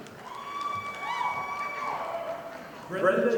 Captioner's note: audience applauding